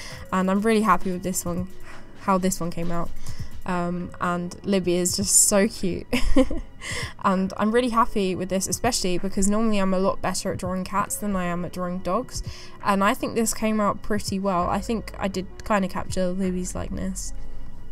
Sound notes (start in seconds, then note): 6.1 giggle